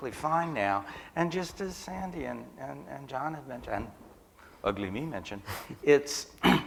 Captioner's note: laughter